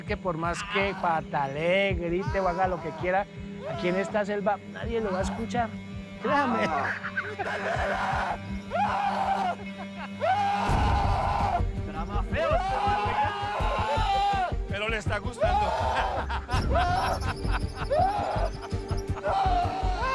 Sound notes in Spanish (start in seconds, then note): 6.5 Carcajada; 8.6 Gritos; 15.9 Risas; 19.1 Gritos